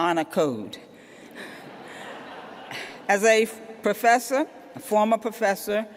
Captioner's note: laughter